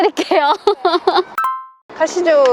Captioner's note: laughter